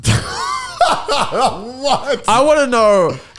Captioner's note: laughing